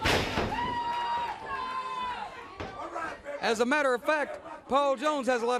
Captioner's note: crowd chatter